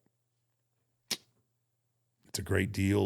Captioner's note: Undertaker clicks tongue